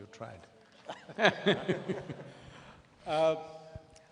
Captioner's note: laughs